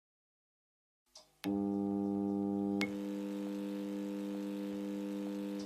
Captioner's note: soft hum